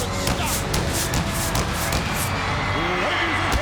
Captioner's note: fireworks booming